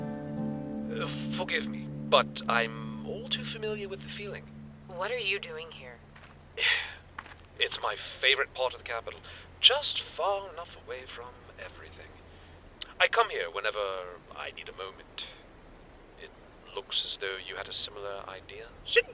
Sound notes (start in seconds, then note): 6.6 sigh